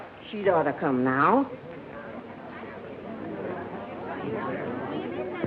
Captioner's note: chatter